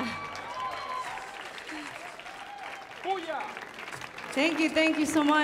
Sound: audience applauding

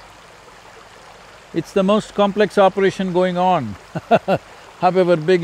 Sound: laughs

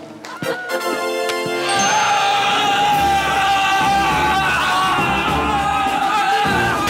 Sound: screaming

